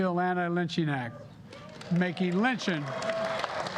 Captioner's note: applause